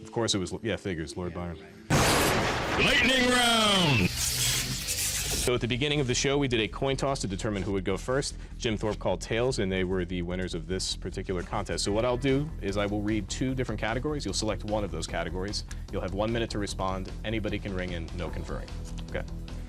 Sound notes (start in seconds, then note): 2.2 intense male voice